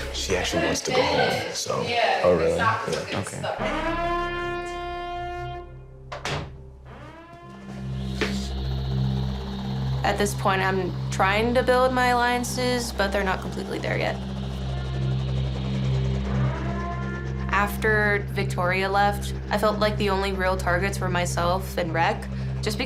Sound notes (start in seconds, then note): 3.5 siren ringing; 14.8 siren ringing